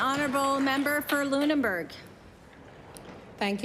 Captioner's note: applause